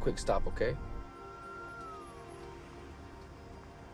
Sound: siren wails in distance

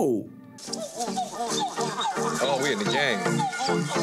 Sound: monkey howling

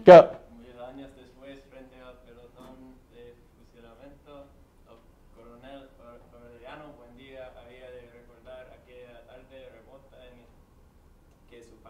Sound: speaking spanish

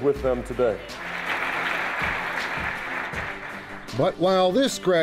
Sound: crowd applauding

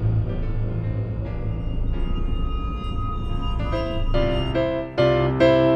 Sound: rumble subsides

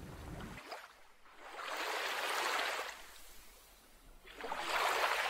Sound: water lapping calmly

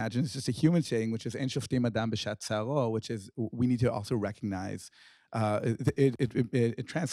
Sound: speaking hebrew

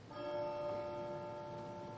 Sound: bell

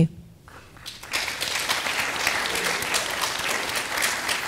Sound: audience applause

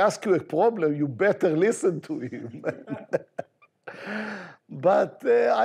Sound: chuckles

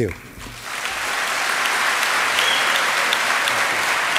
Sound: applause

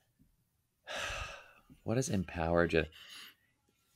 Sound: sighing

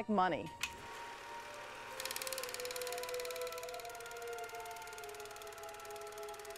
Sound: film clicking; dramatic music

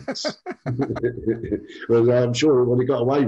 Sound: laughs

